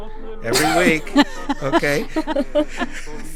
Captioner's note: laughter